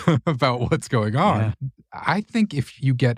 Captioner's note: laugh